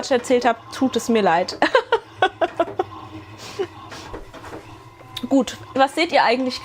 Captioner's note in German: gelächter